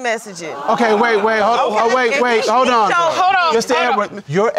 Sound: audience gasps

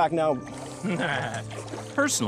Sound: laughing

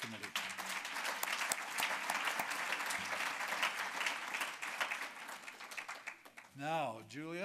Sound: applause

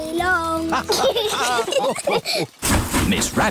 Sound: laughter

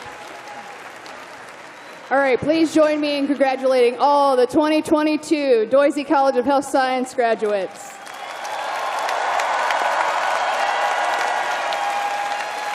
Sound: cheers and applause

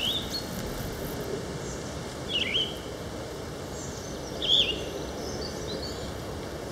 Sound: birds chirping soundscape

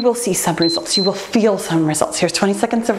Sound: timer beeps

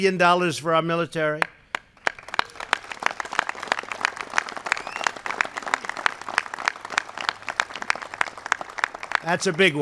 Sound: applause

